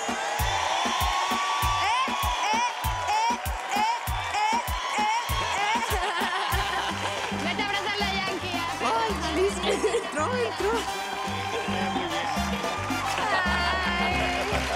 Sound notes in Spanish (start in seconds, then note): 5.7 risas